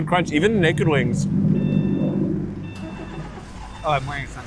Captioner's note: car beeping